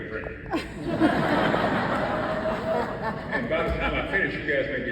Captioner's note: audience laughs